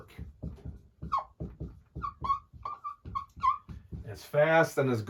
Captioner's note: marker squeaking